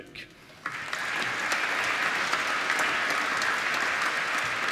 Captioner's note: applause